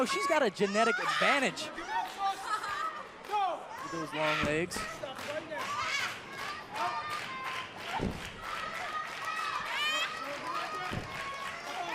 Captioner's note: crowd cheering